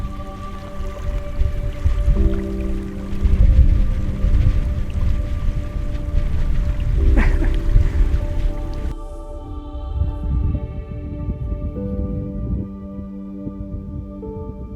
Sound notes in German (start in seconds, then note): 7.0 lacht; 9.8 Sentimentale Musik